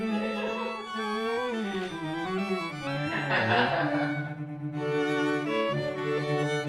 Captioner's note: laughter and terrible modelling